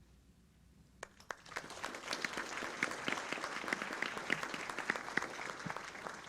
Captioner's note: audience applauds